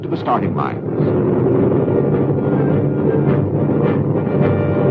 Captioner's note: engines rumbling